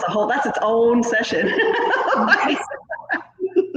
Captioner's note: laughs